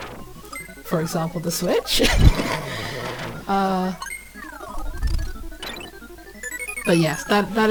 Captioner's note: snorts